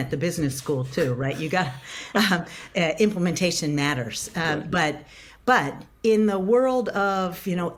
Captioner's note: laughs